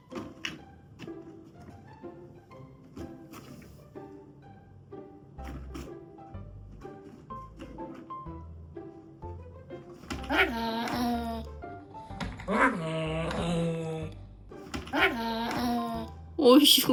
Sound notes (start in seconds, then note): 12.4 A fierce growl to protect the toy; 14.9 growling